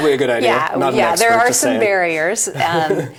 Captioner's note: laughs